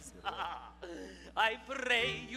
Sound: laughs

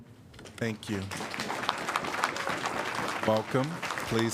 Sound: applause

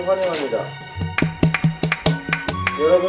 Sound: clapping

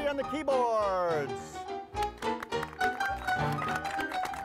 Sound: people applauding

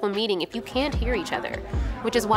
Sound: background talking begins

